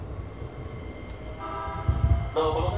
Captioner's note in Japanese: 電車警笛